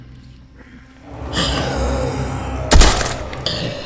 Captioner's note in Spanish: música de suspenso; gruñidos de cadáveres; disparos